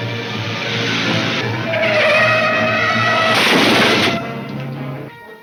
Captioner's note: exciting orchestra music; tires squealing; crashing